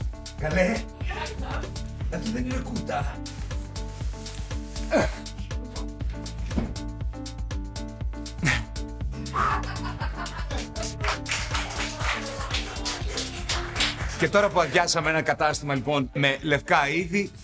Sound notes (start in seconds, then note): 4.9 groans; 8.4 puffs; 9.4 laughs and applause